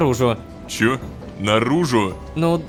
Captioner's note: pat